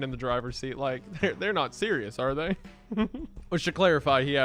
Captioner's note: laughs